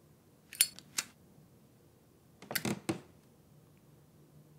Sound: floor creaks

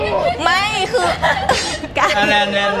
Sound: laughs

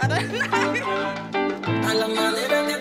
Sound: laughing

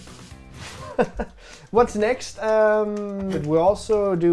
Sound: laughs

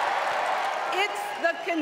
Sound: applause; cheering

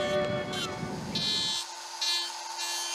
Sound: tool buzzing

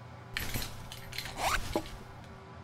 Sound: undoing belt, unzipping pants

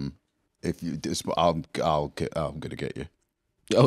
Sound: stammering

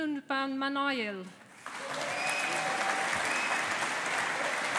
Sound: audience applauding

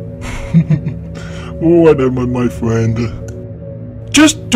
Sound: chuckles

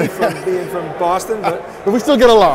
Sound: laughing

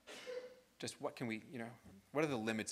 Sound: student sneezes

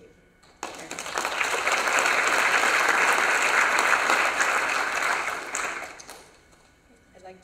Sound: applause

